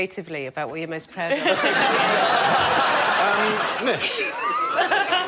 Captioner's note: laughter